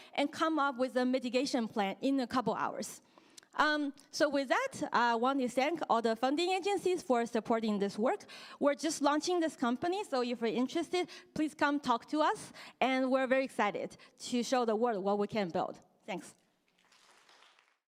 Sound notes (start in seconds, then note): 16.7 applause